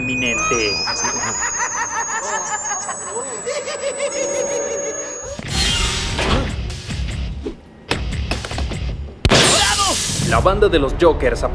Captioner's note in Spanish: Risa psicópata atemorizante